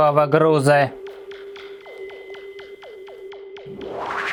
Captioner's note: various sounds of the operating device; rustle of teleportation